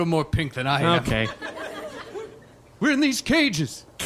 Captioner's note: audience laughter